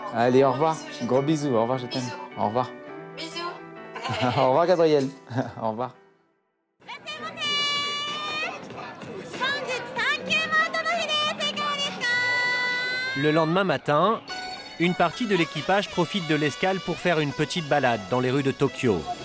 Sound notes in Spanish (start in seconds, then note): 7.2 hablando en japonés